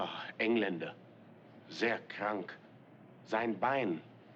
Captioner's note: German